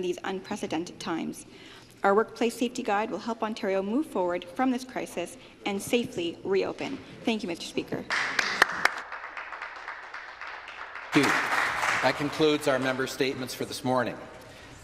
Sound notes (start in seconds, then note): 11.2 applause